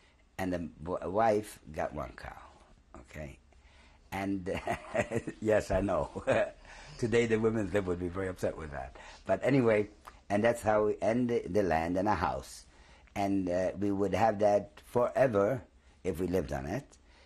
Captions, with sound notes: And the wife got one cow. OK? And [LAUGHS] yes, I know. Today the women's lib would be very upset with that. But anyway, and that's how-- and the-- the land and a house. And we would have that forever if we lived on it.